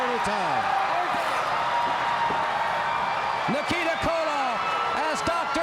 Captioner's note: crowd cheering